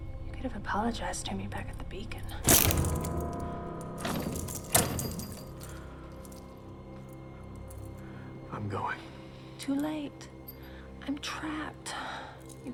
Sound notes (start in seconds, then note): 2.4 chains rattling; 2.6 suspenseful music